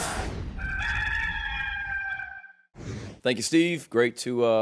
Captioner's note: cock crowing